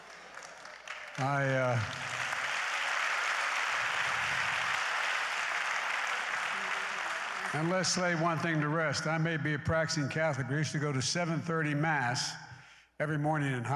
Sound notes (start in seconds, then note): 3.4 applause